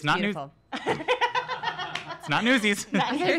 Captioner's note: laughs